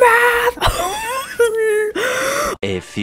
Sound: various noises of agony

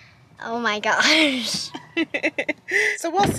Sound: laughs

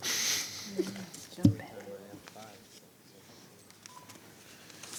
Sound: whisperings

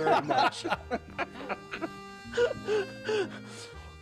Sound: laughter

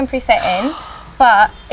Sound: gasping

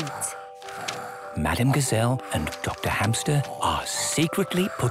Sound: whispering

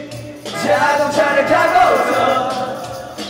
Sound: vroom vroom

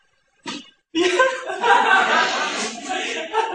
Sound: can't stop laughing ^^

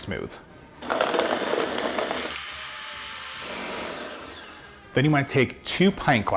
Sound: blender whirring

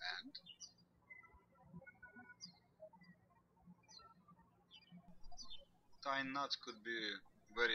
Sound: birds chirping

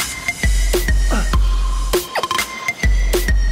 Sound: Sonny doing an intense workout

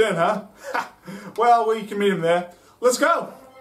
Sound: laughs

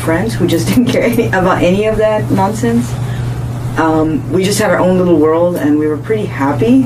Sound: laughs

